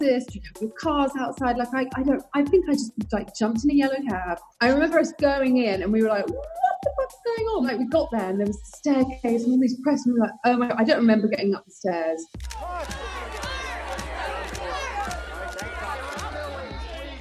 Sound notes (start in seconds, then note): 12.4 crowd noises